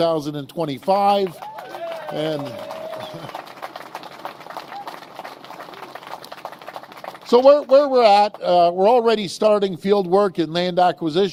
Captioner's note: applause